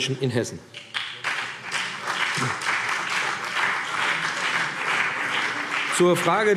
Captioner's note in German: Beifall BÜNDNIS 90/DIE GRÜNEN und vereinzelt CDU